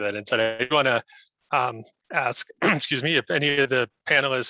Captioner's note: coughs